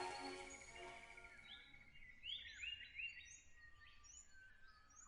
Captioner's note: birds chirping